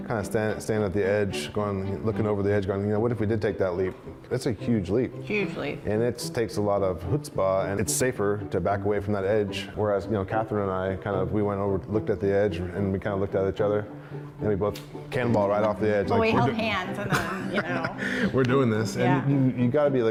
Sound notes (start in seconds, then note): 17.0 laughs